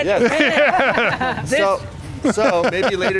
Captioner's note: laughing loudly